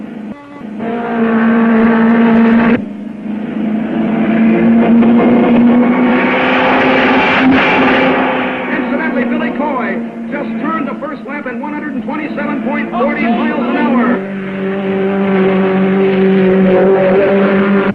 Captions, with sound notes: (car revving) (car screeching) Incidentally, Billy Coy just turned the first lap in 127.40 miles an hour. - Okay, Billy. (car revving)